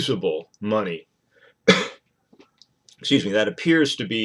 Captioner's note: coughing